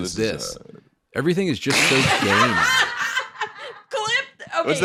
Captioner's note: all laughing